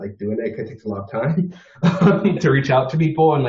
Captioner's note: laughs